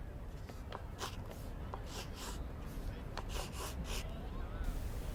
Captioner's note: pencil scratches